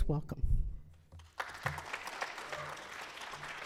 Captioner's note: applause